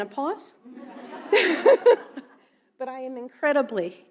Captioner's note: audience laughing